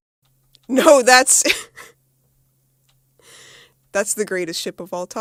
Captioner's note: laughing